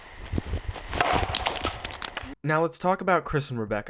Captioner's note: tree thudding